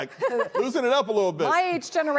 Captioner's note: laughter